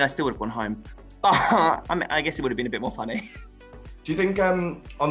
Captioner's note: laughs